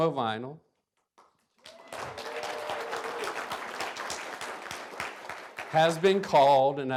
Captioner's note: applause